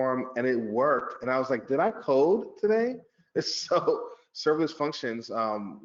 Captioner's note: laughs